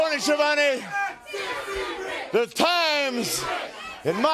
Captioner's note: crowd cheering